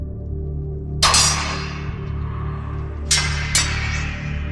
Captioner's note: swords clanging